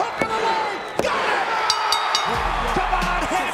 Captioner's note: ring bell clanging